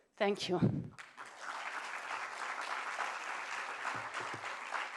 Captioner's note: applause